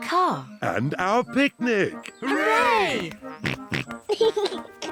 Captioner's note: snorts and giggles; laughs